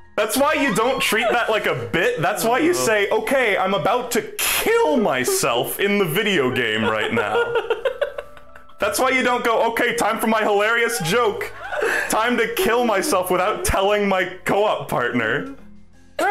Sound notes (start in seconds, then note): 7.8 laughing